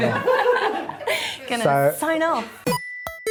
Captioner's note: laugh